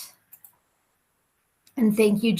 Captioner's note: computer mouse clicking